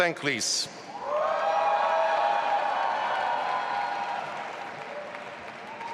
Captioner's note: audience applauding and cheering